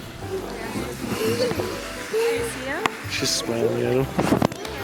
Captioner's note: laughing